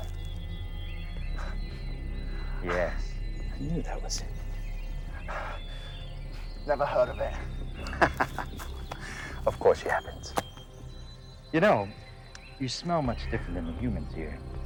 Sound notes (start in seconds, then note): 0.1 intense music continues; 7.7 vampire laughing; 10.3 intense music continues